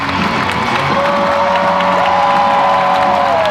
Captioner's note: cheers and applause